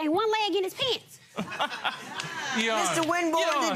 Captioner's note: laughing